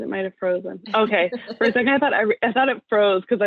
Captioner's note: laugh